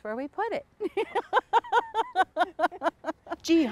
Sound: both laugh

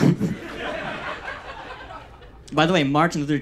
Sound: audience laughs

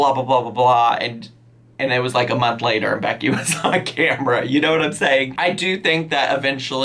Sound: laughs

